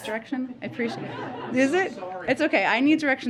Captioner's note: laughter